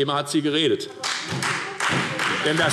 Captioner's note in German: Beifall Freie Demokraten und SPD